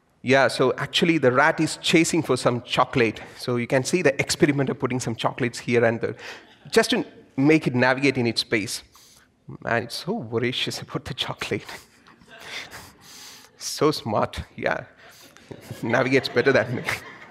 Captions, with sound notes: Yeah, so actually, the rat is chasing for some chocolate, so you can see the experiment of putting some chocolates here and just to make it navigate in its space. And it's so voracious about the chocolate. (laughs) So smart, yeah. Navigates better that way.